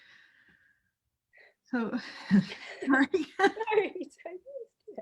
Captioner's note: crying